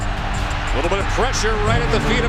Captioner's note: voiceover